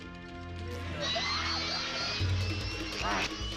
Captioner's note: grunting